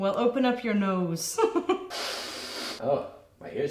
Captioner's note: giggling; sniffing